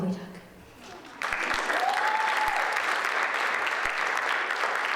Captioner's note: audience applauds